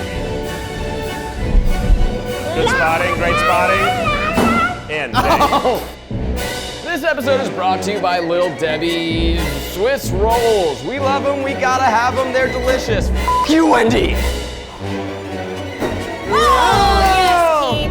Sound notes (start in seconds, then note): 0.2 chaotic music; 13.2 beep; 16.2 everyone exclaims